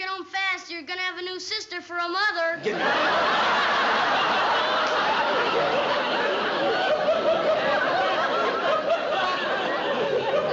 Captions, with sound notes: You're going to have a new sister for a mother. Get out. [laughter]